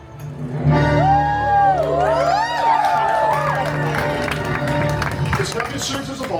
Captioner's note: guests cheering and applauding